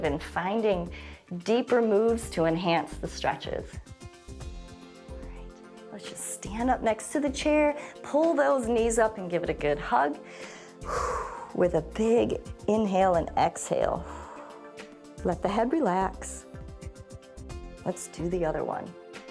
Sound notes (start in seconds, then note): 10.2 inhales and exhales